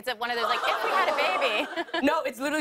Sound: laughter

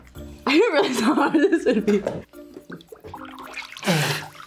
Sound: laughs

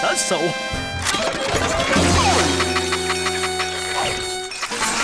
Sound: teeth chatter

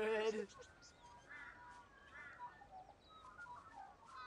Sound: birds chirping

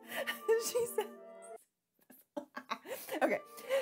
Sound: laughing

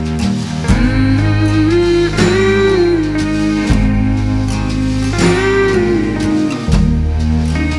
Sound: humming "Mmm Mhmm"

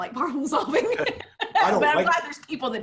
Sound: laughing loudly

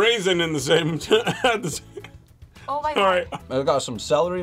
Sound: laughs

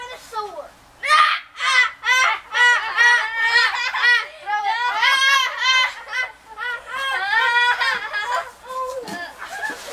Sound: Philistines laugh uproariously

